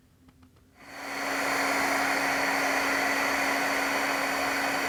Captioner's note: heat tool whirring